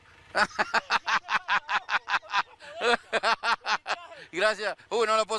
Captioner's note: Laughter of Copa America winners!